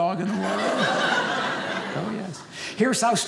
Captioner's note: audience laughing